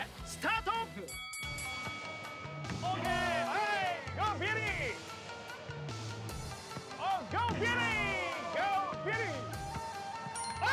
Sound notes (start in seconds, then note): 0.1 speaking Japanese; 2.8 cheers